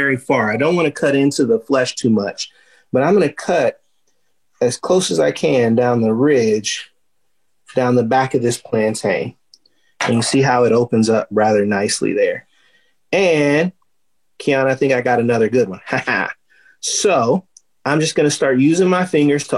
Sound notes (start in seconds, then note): 15.8 laughing excitedly